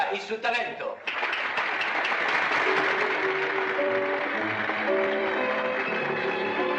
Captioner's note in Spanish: aplausos